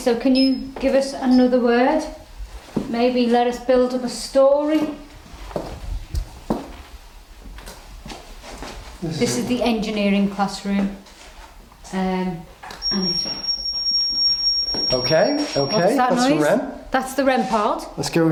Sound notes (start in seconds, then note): 12.8 high pitched squealing